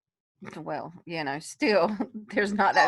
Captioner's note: giggles